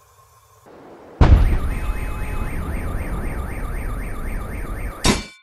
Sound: kaboom; car alarm beeps

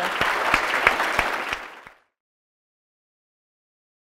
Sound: audience applauds

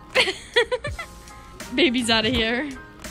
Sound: giggles

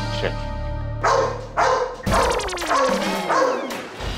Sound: dog barks

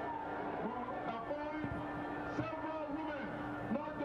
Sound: voiceover

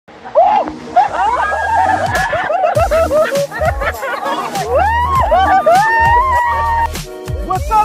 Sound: laughing & Screaming

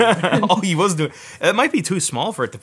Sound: laughs

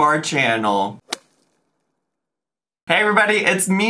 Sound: logo thuds

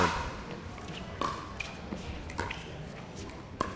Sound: ball bouncing

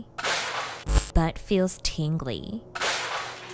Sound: pans banging; static crackling

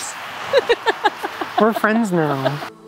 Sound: laughing

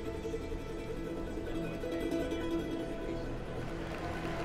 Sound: applause

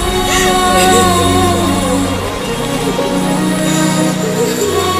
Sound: sobbing

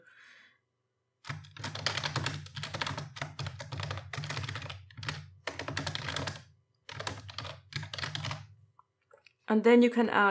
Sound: typing

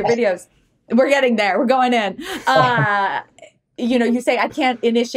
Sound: chuckles

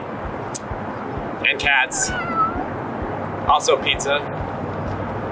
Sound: cat meowing

